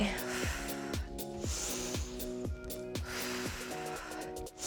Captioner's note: inhales and exhales